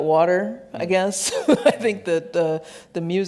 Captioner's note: laughs